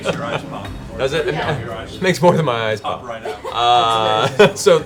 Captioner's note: laughs